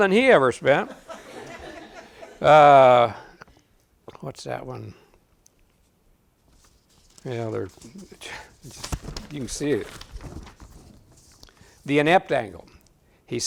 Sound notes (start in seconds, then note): 0.8 audience laughing